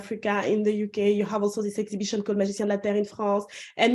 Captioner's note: non-english speech